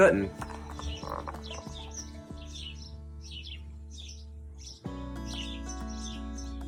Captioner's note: upbeat music; birds chirp